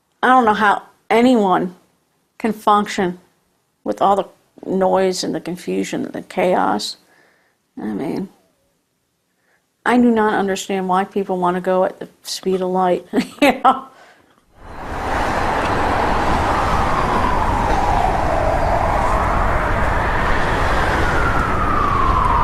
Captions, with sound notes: I don't know how anyone can function with all the noise, and the confusion, and the chaos. I mean, I do not understand why people want to go at the speed of light. (laughs) (sirens blaring)